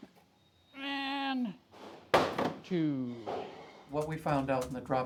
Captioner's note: dropping crate